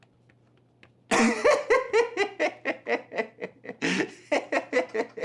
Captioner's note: rich man laughing